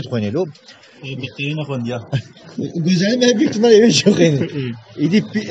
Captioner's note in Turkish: kahkaha sesleri